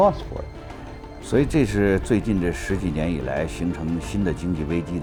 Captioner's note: speaks in Chinese